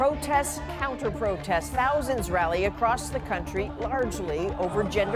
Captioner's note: chanting